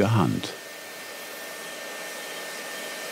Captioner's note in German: Schleifgeräusche